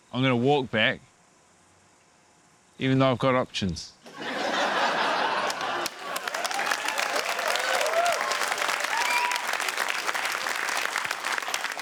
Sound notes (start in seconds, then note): 4.0 laughter; 6.2 cheering, applause